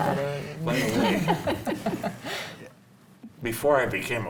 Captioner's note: panel laughs